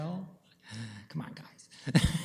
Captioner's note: chuckles